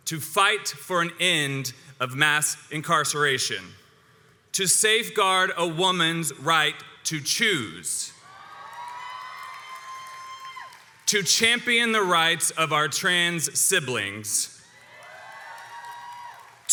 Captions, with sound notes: to fight for an end of mass incarceration, to safeguard a woman's right to choose, (audience cheers) to champion the rights of our trans siblings, (crowd cheers and applauds)